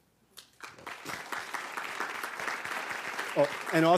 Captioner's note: applause